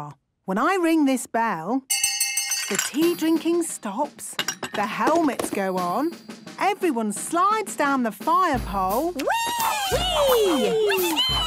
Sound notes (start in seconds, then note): 1.9 hand bell ringing; 1.9 tea cups clinking